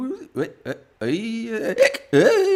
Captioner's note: drunk noises